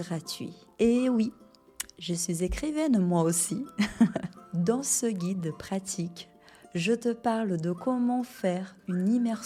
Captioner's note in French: rires